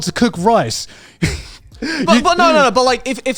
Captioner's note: chuckles